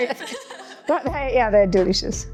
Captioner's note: laughing